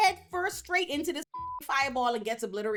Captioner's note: beep